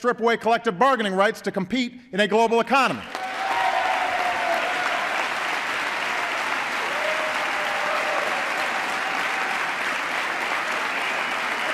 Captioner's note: applause